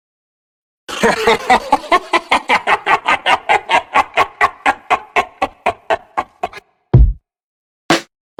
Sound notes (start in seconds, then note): 4.3 laughs